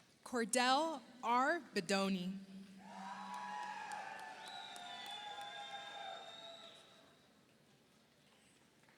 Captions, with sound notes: Kordell R. Bedonie, (audience applauds) (audience cheers)